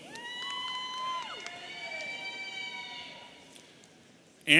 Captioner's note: audience cheering